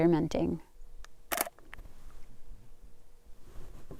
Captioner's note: camera shutter